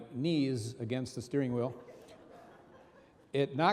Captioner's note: audience laughing